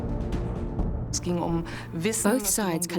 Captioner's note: speaking German